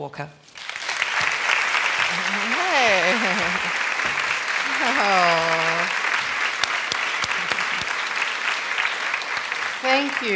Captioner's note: applause